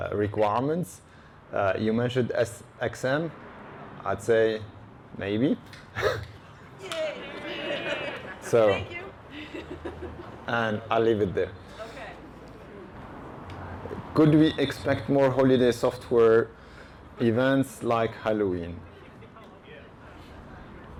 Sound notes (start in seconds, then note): 6.8 cheer